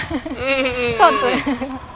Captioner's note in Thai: เสียงหัวเราะ